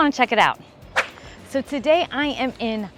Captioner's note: air whooshing